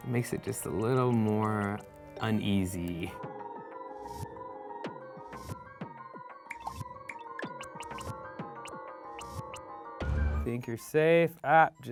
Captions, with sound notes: makes it just a little more uneasy. (funky music) (popping) Think you're safe, ah!